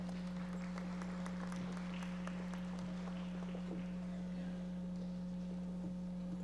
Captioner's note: audience members applauding